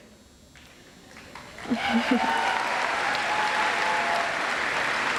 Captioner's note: audience applauds